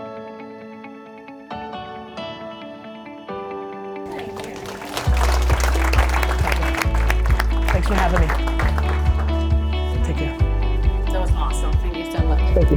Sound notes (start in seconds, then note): 0.3 upbeat inspirational music; 4.0 applauding